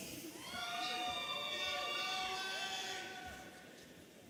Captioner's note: audience cheering